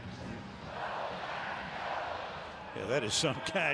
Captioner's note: crowd chanting "go packs go"